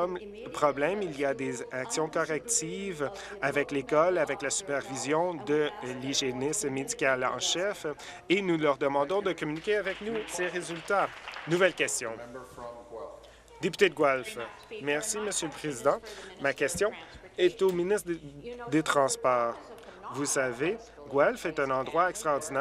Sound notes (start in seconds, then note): 12.2 applause